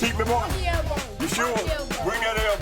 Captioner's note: kid jabbers